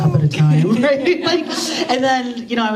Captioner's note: laughter